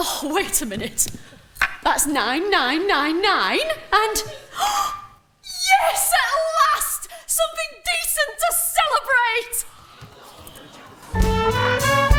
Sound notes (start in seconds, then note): 4.2 Marjorie gasps